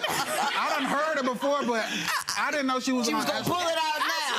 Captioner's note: audience laughs